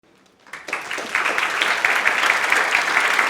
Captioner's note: applause